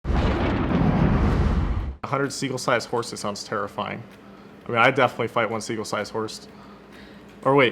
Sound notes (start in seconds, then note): 0.0 exploding